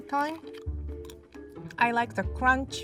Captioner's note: M&M'S crunching